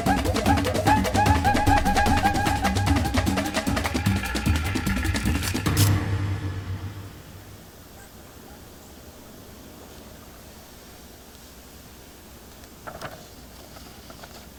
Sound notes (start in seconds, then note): 5.4 camera whir